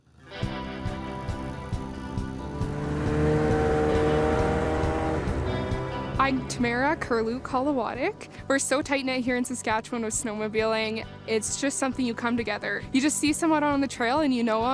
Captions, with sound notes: (upbeat music) (engine roaring) I'm Tamara Kerluke-Holowatuik. We're so tight knit here in Saskatchewan with snowmobiling. It's just something you come together. You just see someone on the trail and you know them,